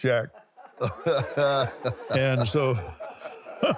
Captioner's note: laughs